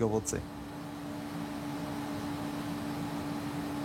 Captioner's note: mechanical whirring